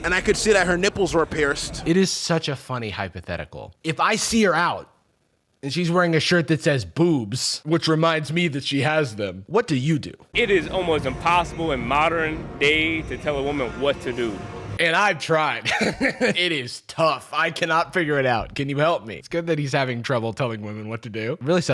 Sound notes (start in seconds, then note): 15.6 laughs